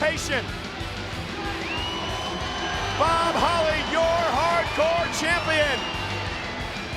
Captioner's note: applause